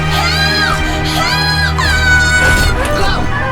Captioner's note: screaming